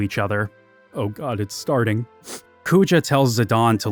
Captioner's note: sniffles